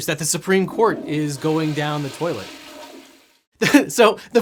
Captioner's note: toilet flushes